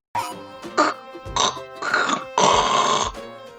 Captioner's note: phlegm-inducing sounds